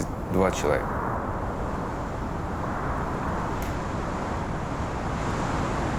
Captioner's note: wind blowing